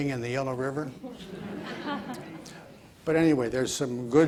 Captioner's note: audience laughs